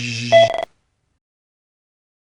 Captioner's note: beep